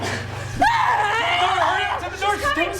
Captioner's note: screaming